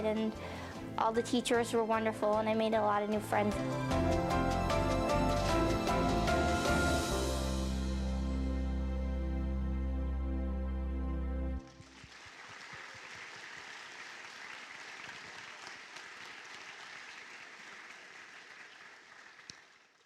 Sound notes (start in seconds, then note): 12.1 applause